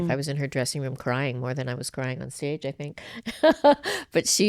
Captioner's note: laughs